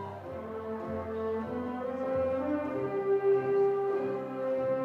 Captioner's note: attendees chattering